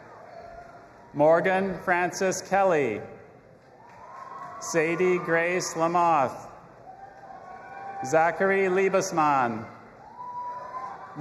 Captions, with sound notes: (audience applauding and cheering) Morgan, Francis, Kelly. (audience applauding and cheering) Sadie Grace Lamothe. (audience applauding and cheering) Zachary Liebesman. (audience applauding and cheering)